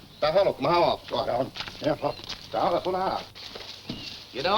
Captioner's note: foreign language